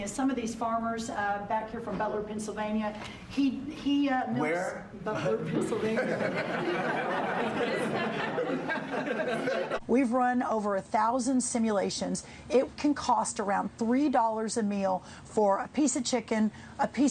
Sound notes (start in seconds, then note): 5.6 laughter